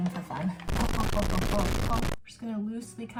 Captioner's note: humming